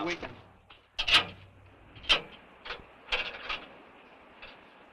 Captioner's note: chain clanking